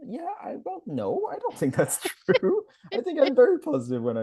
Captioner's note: both laugh